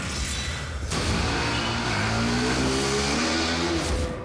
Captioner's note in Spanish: Ruido de la motocicleta